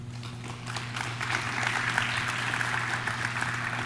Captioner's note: audience claps